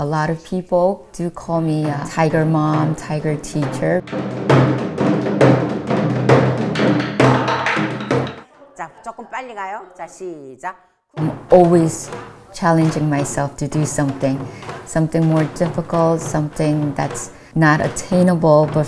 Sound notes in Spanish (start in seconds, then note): 4.5 Tamborileo; 8.8 Hablando en coreano